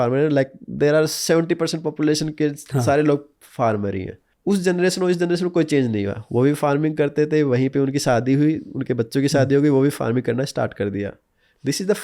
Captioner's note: chuckles